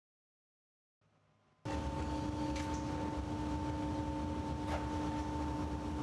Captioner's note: machine noise